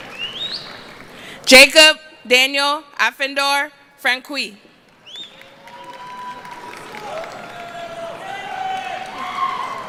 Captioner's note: applause